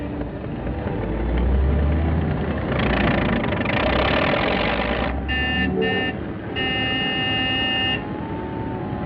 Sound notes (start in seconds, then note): 5.1 honking